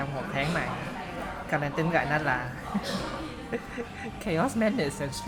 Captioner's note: laugh